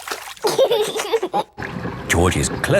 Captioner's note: giggling